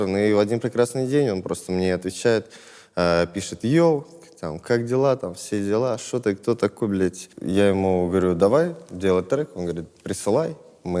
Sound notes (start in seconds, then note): none